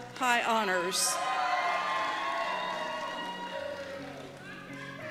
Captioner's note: cheers and Applause